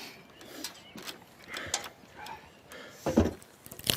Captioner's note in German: Keuchen